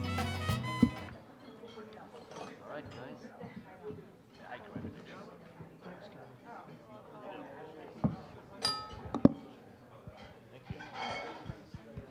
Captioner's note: upbeat Mexican music; general chatter